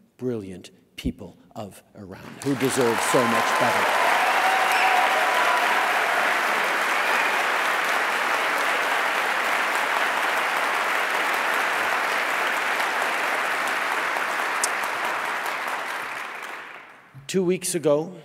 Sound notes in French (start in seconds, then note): 8.9 Applaudissements